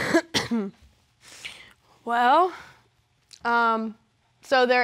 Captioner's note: coughs